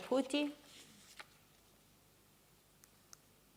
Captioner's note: silence